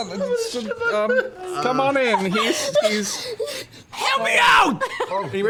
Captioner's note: stutters